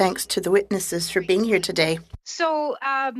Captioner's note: speaking French